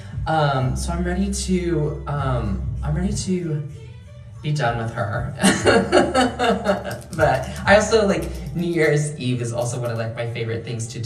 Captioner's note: laughing